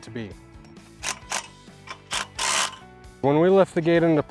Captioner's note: drill whirring